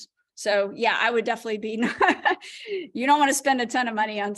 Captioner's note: laughter